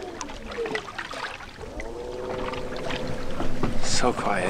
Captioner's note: boat engine humming